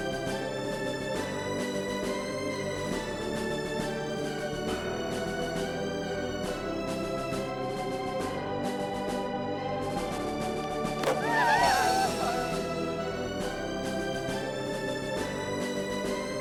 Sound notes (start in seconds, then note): 11.0 cheering